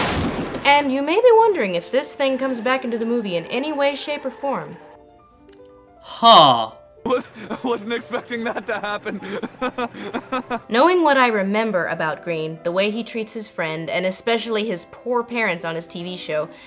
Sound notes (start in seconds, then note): 5.8 flatly; 7.0 Green laughs